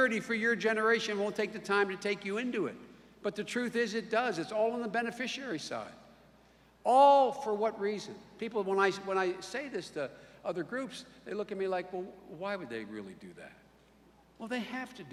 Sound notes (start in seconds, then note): none